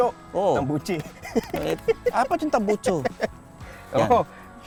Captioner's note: laughing